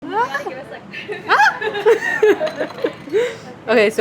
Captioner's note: laughing